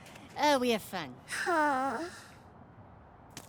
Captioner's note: sad sigh